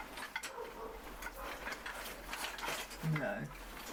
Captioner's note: dog barking